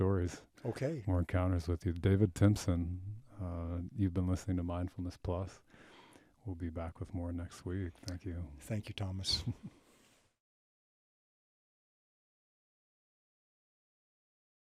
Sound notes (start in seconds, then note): 9.2 chuckles